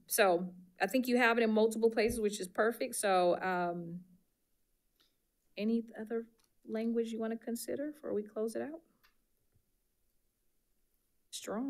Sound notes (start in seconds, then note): none